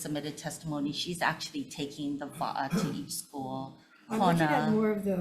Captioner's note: speaks foreign language